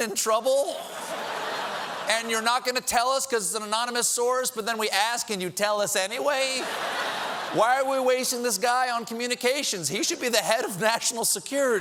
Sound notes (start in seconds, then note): 3.3 laughter